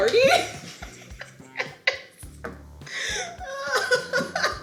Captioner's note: laughing